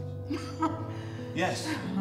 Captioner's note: laughing